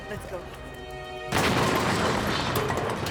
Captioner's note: explosion blasts; metal clattering